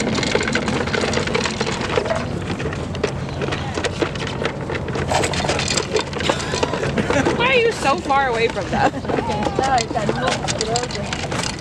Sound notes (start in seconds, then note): 6.2 laughing